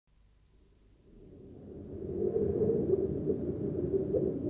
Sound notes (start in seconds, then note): 1.0 wind howling